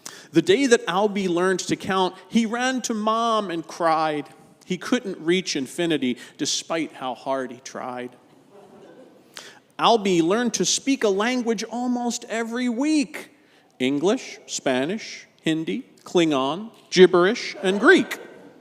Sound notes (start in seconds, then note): 8.2 congregation chuckles